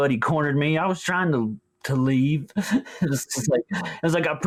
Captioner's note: laughs